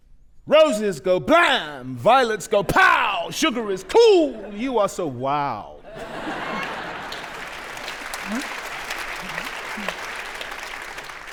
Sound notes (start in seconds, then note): 5.8 audience laughing; 7.9 audience applauding